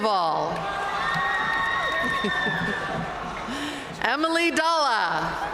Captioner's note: audience cheering and applauding